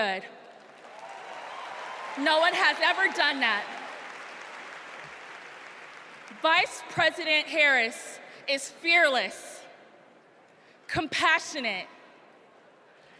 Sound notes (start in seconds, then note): 5.7 applause